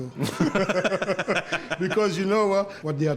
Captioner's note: both laugh